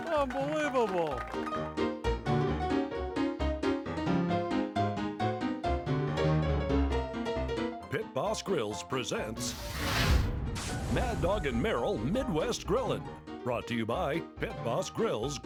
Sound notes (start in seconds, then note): 2.1 ragtime music continues; 9.4 fire whooshing; 9.4 brand sizzling